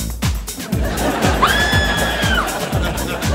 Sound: screaming

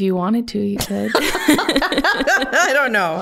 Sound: both laughing

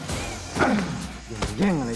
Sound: grunting

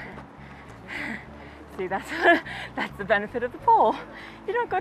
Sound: laughs

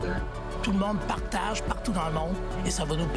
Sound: speaking French

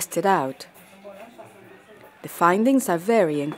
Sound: people chattering

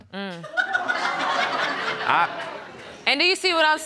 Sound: audience laughing

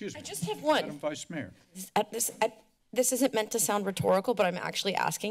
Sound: none

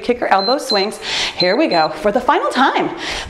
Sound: timer beeps

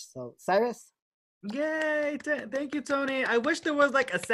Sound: applause

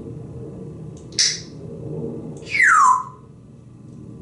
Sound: tweet and whistle

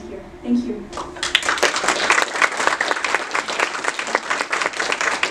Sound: audience applauding

